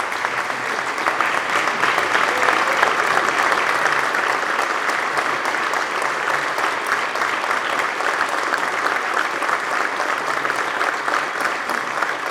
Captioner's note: applause